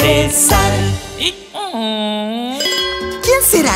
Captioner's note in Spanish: Sonido de burro; Campanas